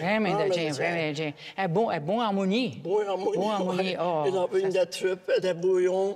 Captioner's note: speaking in a foreign language